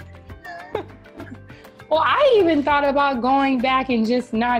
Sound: laughing

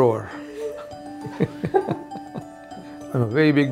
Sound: laughs; interviewer laughs

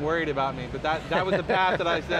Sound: laughter

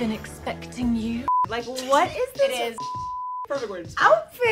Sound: beep

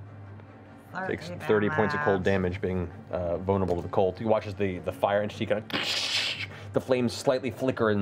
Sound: freezing sounds

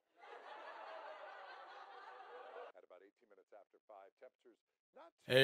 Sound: people laughing on TV

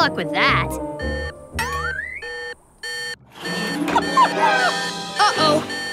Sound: beeping

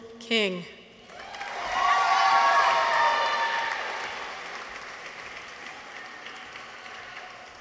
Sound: audience applauds; people cheer

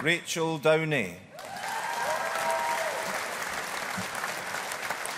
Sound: audience applauding

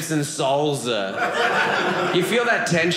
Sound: audience laughing

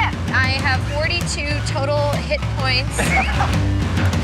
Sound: laughing

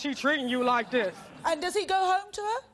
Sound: laughing

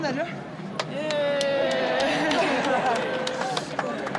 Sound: clapping and cheering

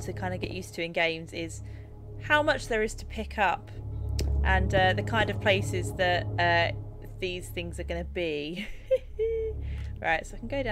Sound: laugh

